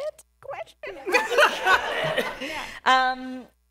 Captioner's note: laughter